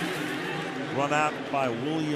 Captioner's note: pa announcement